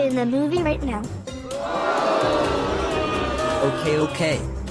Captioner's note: crowd booing